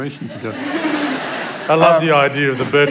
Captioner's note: laughter